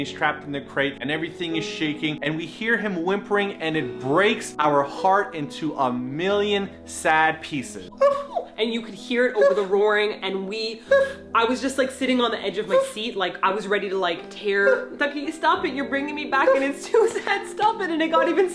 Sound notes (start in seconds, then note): 7.9 making sad puppy noises